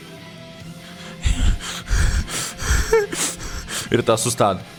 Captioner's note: panting and crying